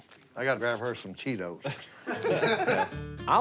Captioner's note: laughter